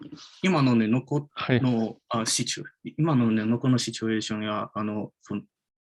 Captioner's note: speaks in Japanese